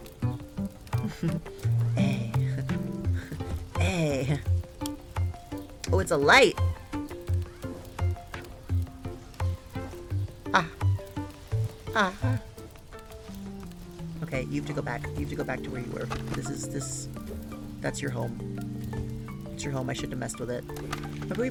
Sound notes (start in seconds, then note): 0.9 giggles